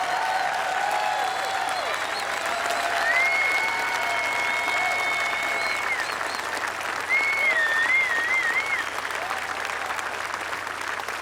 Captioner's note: applause